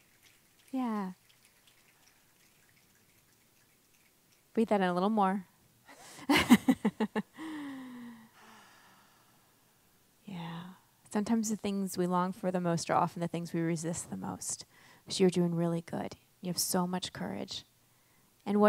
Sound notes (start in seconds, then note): 6.0 laughs